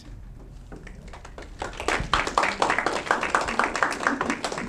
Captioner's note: audience clapping